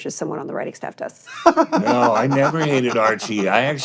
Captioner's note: laughs